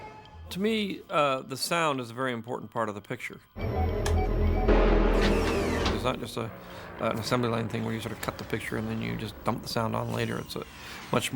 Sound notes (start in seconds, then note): 3.5 beeping; 3.6 whirring